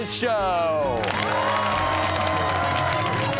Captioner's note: cheers and applause